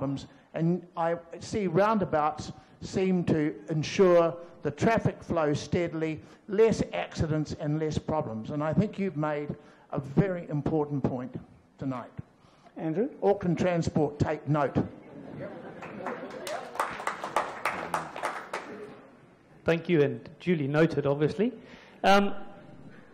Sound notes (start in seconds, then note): 14.9 audience laughs; 15.8 applause